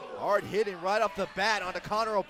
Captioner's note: crowd chatter